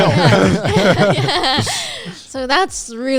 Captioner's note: all laughing